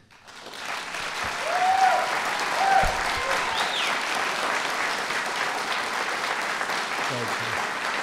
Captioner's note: applause